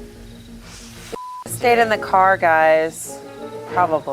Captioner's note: beep